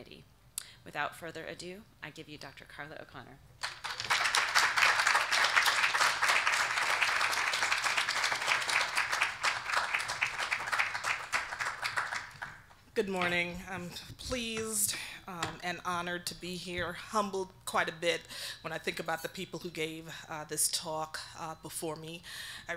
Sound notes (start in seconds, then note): 3.6 audience applauding